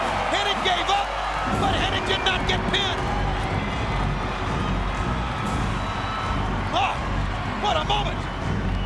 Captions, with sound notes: Hennig gave up but Hennig did not get pinned. (audience cheers) (band music plays) Oh, what a moment!